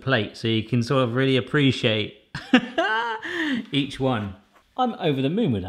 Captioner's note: laughs